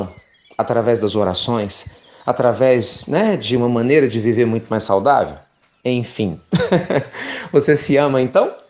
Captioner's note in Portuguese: Risos